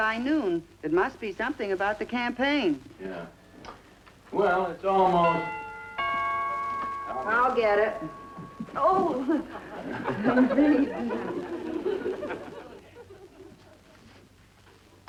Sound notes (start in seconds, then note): 5.2 doorbell rings; 9.1 audience laughing